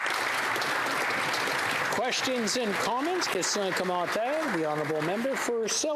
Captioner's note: speaking alternate language